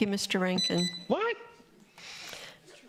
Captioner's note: buzzer